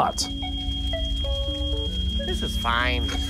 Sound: fire alarm sound

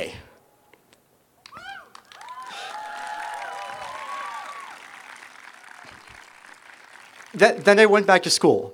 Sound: applause

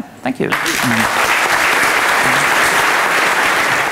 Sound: applause

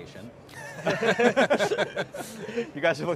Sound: group laughing

